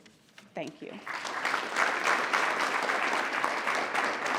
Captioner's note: applause